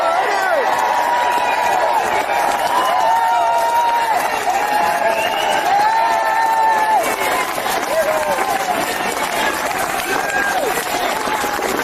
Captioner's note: applause